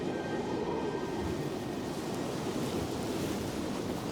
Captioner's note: wind gusting